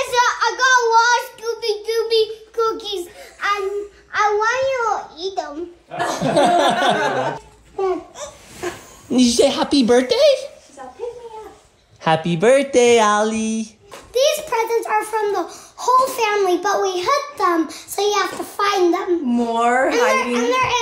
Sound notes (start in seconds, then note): 5.9 laughter